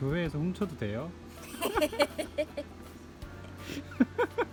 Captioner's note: evil laugh